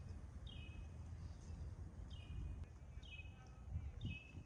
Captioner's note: birds chirping